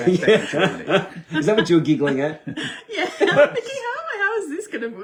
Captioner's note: giggling